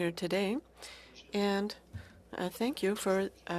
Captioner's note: speaking french